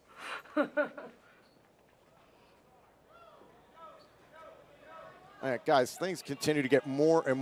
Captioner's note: laughter